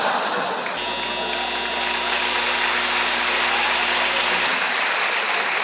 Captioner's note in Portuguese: campainha